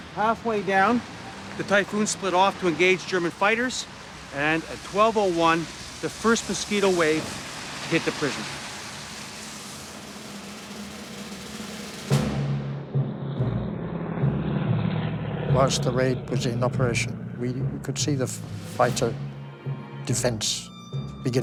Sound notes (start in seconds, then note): 11.8 dramatic music; 15.0 jet engines roaring